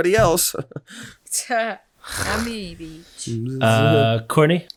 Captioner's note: chuckles; everyone scoffing